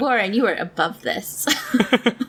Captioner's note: laughs